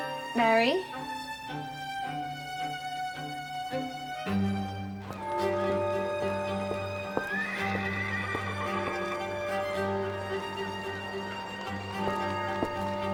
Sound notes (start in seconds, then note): 5.2 church bells ringing; 5.2 horse neighing